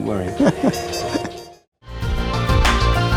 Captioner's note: chuckling